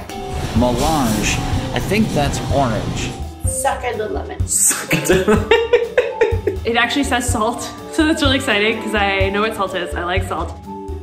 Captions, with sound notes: "Mélange." I think that's orange. -"Sucka da lemon." -Sucka da... (laughs) It actually says "salt," so that's really exciting, because I know what salt is. I like salt.